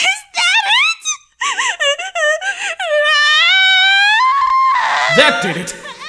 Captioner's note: loud crying